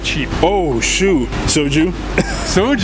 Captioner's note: laughs